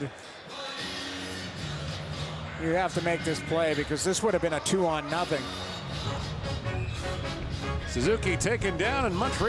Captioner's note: whistle Blows